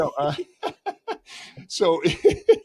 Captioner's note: laughter